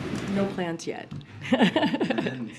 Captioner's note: laughs